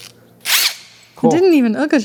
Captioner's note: drill whirring